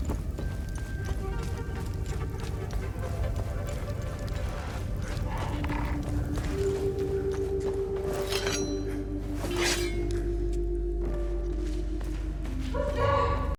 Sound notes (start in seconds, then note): 2.9 brooding music continues; 5.1 monster snarls; 9.2 blade scrapes